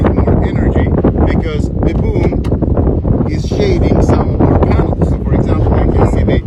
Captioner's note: tap tap